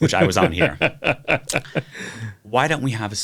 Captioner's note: laughs